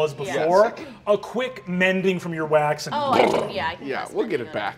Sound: imitates engine rev

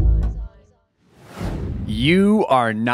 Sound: air whooshing

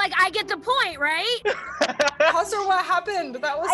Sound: laughs

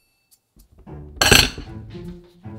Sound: clank

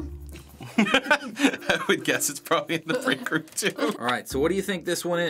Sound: laughing

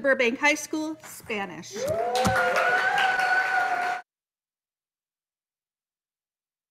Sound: audience cheering and applauding

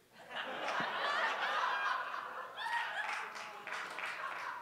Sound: audience laughs; chuckles

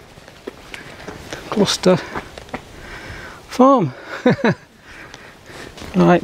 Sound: laughs

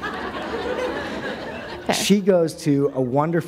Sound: laughter

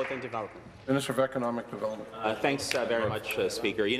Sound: applause

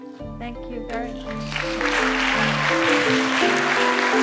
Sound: applause

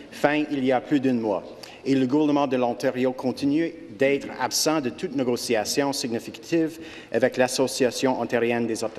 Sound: speaking French

